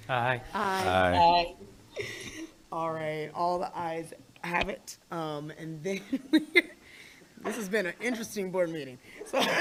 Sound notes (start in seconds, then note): 6.7 laughs